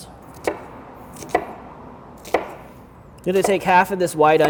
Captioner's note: knife chops